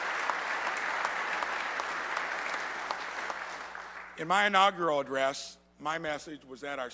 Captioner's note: applause